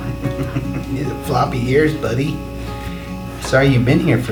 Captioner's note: chuckles